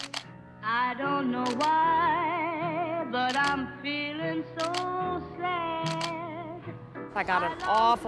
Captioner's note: camera shutter; camera shutter